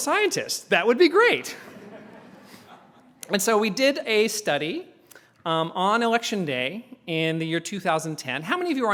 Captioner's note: laugh